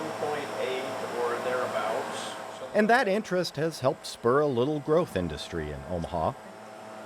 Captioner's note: none